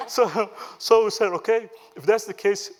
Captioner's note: laughter